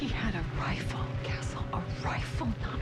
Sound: lowered voice

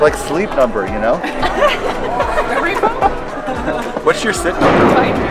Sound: laughs

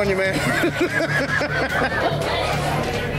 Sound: laughs

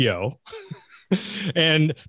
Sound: laughing

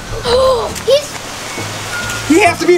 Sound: gasps

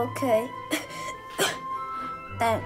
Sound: coughing noises

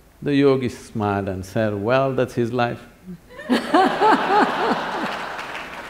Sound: laughter/Applause

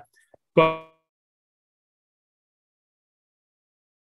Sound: microphone fades

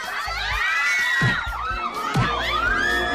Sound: crowd clamoring; screaming

